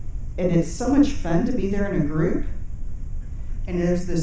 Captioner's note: none